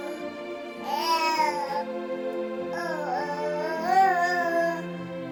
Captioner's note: baby makes happy noises